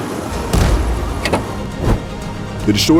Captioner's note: faint cannon shot, miss; pause in magic hum, increased wind; reengages magic, faint cannon shot, miss